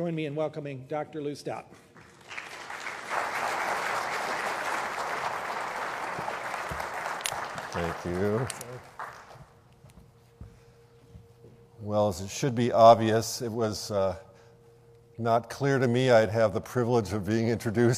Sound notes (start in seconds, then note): 9.1 applause